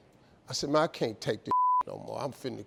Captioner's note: beep